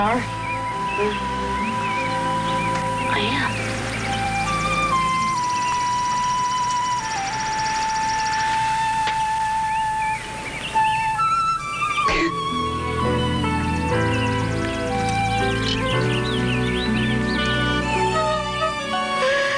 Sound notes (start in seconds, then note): 12.0 cries; 18.0 sobbing